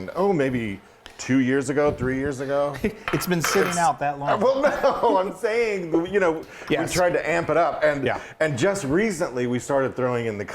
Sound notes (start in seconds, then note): 2.9 chuckling; 4.4 laughing